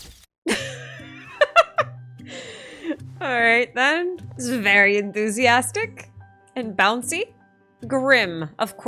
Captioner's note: laughs